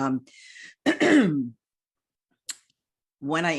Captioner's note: clears throat